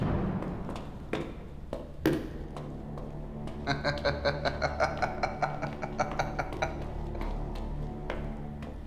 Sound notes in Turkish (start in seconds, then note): 3.6 Gülme sesi; 7.2 Müzik - Gerilim